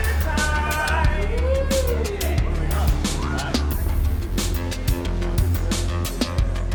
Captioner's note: cat calls and yelling